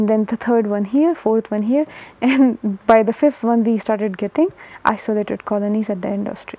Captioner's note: laugher